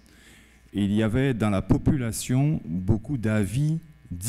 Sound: speaking french

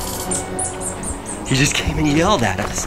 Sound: bird chirping; menacing music

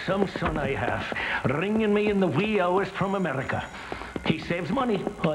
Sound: phone Ringing

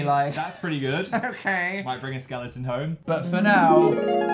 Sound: parent voice

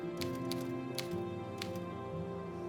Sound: typing

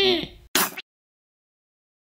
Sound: squirt!

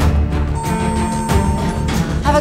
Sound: elevator beeps

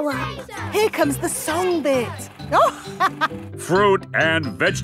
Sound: chuckling

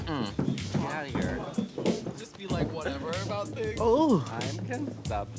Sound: indistinct chatter

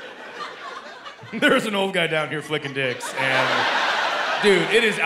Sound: chuckling

